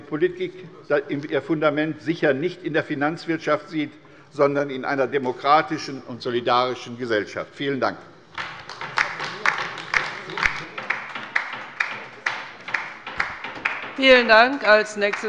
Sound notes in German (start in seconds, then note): 8.3 Beifall bei der LINKEN